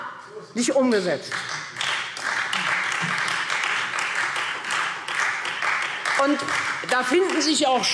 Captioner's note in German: Beifall Freie Demokraten